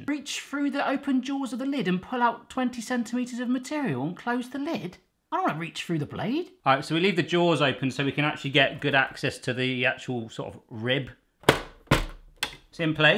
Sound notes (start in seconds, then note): none